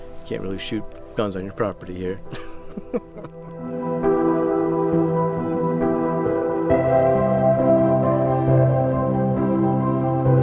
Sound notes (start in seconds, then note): 2.3 chuckles; 3.9 suspenseful music